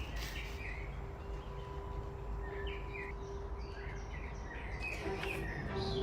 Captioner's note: birds chirping